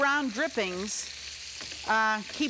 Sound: meat sizzling

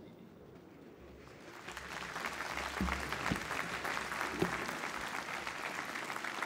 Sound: applause

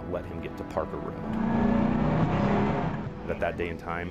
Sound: engine roars

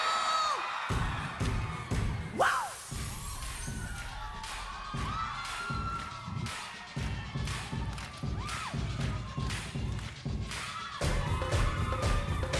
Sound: cheers and applause

